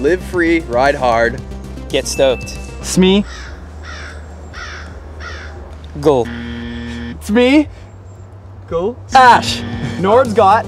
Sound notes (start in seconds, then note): 3.2 crow caws; 6.2 buzzer